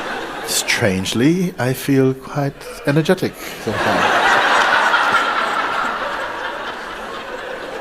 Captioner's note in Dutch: gelach